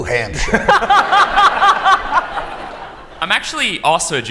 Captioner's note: laughter